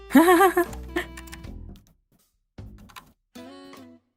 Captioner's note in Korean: 웃음